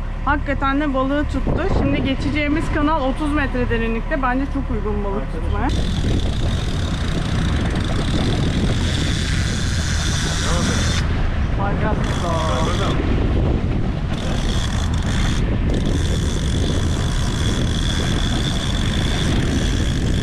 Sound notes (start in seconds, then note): 5.6 rod sound; 13.6 wind sound